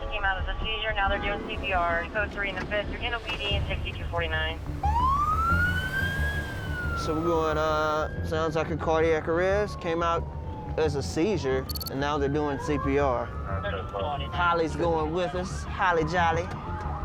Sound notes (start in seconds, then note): 4.3 sirens